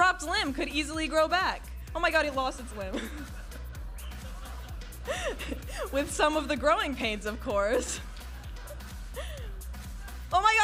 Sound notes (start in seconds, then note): 2.8 all laughing